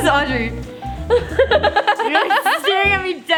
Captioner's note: laughs